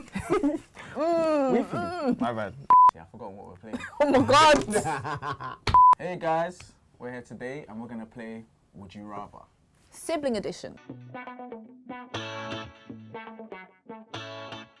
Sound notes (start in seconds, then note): 2.7 beep; 5.6 laughs; 11.1 upbeat music